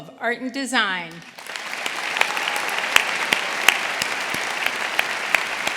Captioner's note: audience applauding